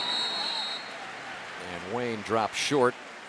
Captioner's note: whistle